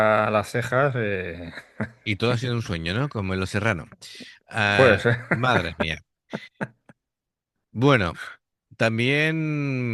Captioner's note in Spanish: risas